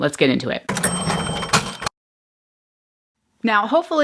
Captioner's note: cash register bell rings